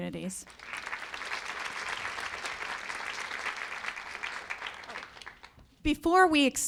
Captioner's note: applause